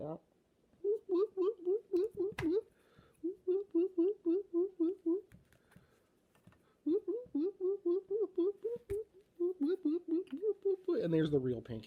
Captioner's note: ghost noises